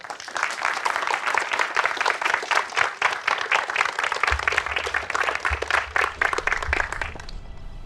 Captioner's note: applause